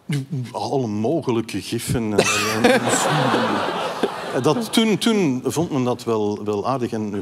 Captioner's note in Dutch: gelach